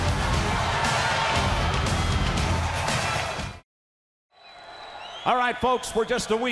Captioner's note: crowd cheering